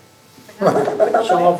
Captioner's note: laugh